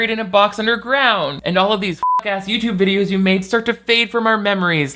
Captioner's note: beep